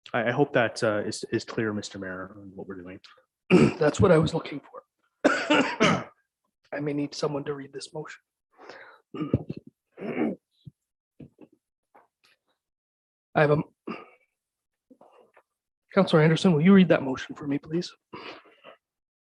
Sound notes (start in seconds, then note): 5.2 coughing